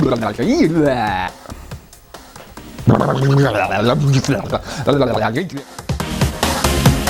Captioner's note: making funny noise with mouth; making more funny noise with mouth